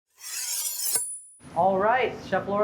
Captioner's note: knives slicing